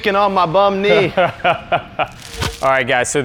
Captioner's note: laughs